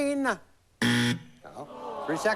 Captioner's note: buzz